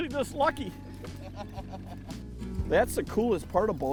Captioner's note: laughing